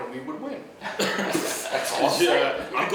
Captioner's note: laughing